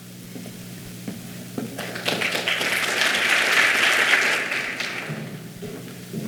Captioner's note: clapping